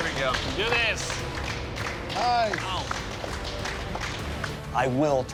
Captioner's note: clapping